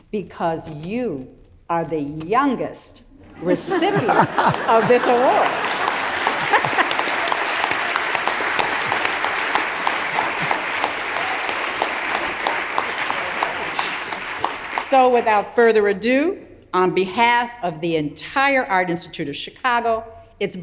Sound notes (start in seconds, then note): 5.3 everyone laughs; 6.5 audience applauds